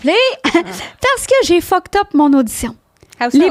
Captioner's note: in french